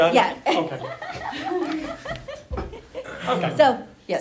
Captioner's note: laughing